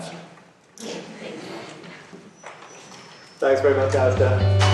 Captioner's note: voiceover